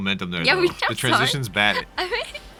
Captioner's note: laughing